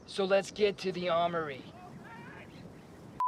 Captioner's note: voiceover